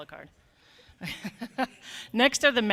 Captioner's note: laughing